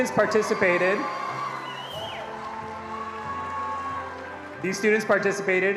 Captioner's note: attendees cheering and applauding